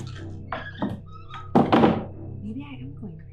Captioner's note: doors creaking and shutting